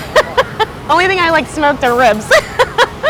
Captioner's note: laughs loudly